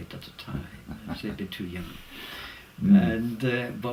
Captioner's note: laugh